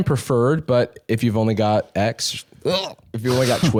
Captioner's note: gags